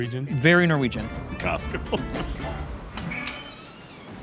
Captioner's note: chuckles